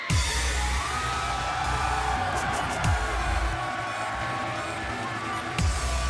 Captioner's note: crowd cheering; upbeat dubstep music